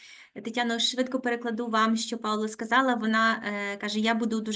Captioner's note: speaking Ukrainian